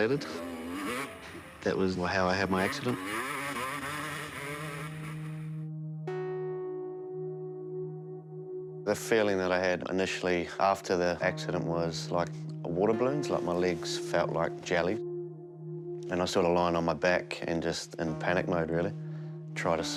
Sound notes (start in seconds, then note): 2.4 engine putters, revs; 5.2 solemn music